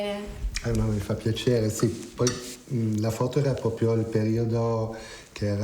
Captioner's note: speaks in foreign language